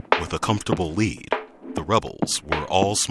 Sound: voiceover

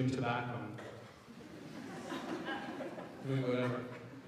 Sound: audience laughs

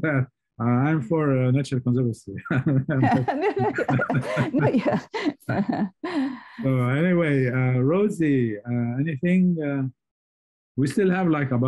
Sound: laughter

